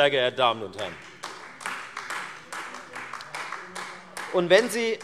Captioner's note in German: Beifall Freie Demokraten